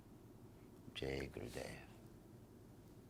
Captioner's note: speaking in foreign language